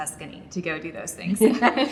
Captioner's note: laughs